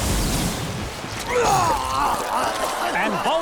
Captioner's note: Bolin vomiting